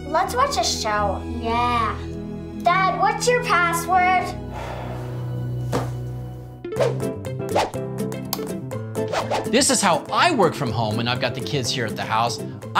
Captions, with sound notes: - Let's watch a show. - Yeah. - Dad, what's your password? (sighing) (upbeat music) This is how I work from home when I've got the kids here at the house.